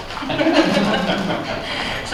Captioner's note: chuckles